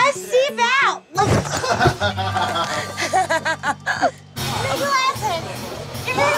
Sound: grunts; laughing

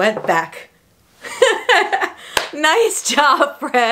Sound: laughs

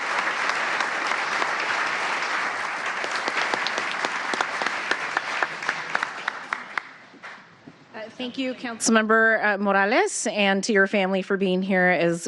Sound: applause

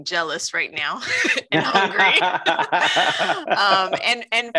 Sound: laughs

